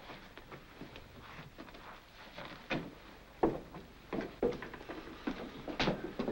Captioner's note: foot Steps